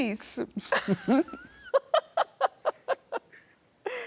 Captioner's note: both laughing